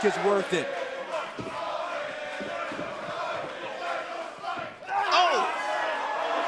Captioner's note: crowd cheering